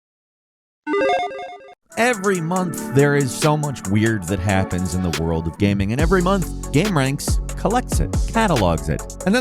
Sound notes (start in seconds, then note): 0.9 sound effect playing; 2.6 upbeat music